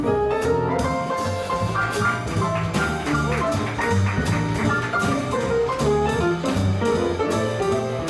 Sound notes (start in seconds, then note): 1.7 playful piano music; 1.7 audience applauds